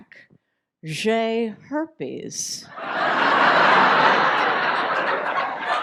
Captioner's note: audience laughs